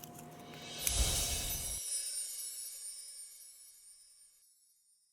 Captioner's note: ethereal twinkling